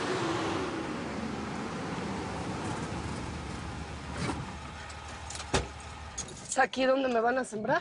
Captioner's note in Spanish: Ruido de un vehículo